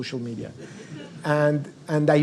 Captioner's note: audience laughs